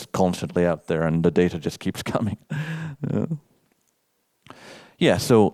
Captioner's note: chuckles